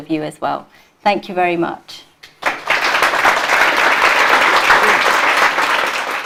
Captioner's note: applause